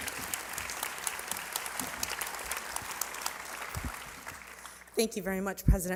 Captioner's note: applause